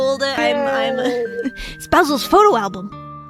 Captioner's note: laughs